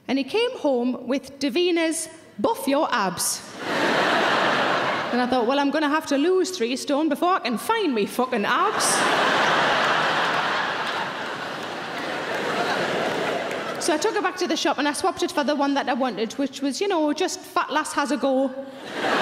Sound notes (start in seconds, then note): 3.5 audience laughing; 8.5 audience laughing